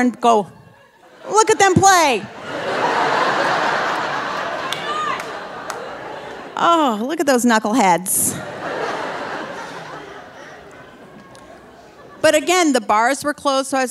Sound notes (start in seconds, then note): 2.7 audience laughing